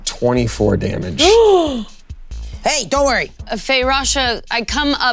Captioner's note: Koda gasping